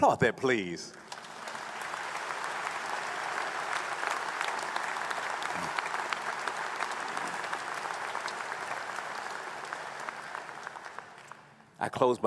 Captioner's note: applause